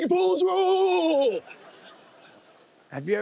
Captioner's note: laughter